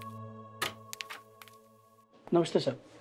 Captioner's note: Door opening